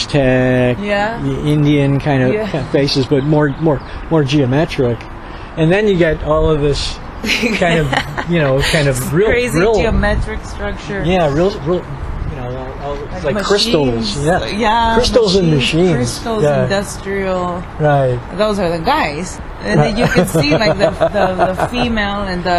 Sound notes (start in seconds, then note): 7.2 laughs; 14.4 laughs